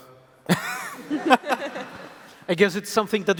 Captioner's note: laughs